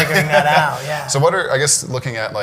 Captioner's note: laughs